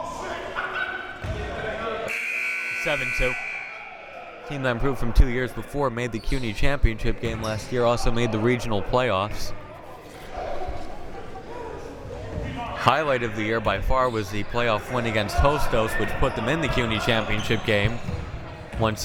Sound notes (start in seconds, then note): 2.0 buzzer